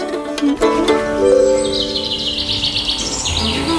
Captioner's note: notification; birds